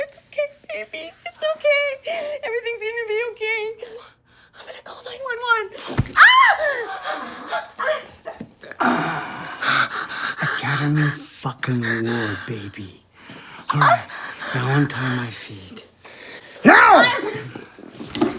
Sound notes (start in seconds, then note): 6.1 Holly screams; 16.7 Holly cries